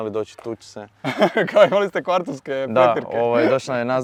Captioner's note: laughs